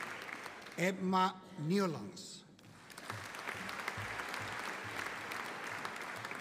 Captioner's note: audience applauding